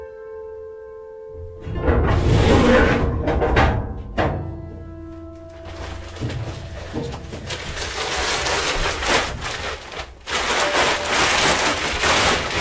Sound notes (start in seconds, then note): 5.4 papers rustle loudly